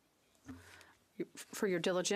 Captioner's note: speaking French